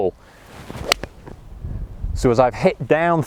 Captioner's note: hits the ball